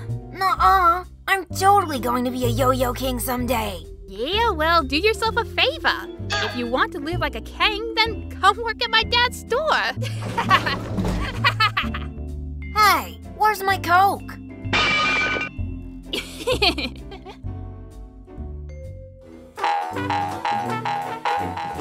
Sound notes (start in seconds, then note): 11.1 laugh; 16.1 laughs off-screen